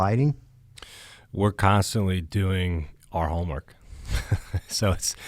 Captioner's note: laughs